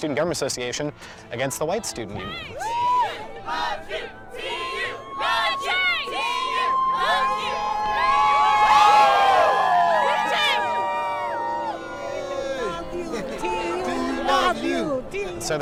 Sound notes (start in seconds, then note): 2.2 chanting